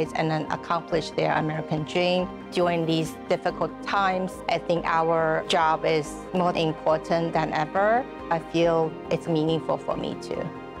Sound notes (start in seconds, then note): none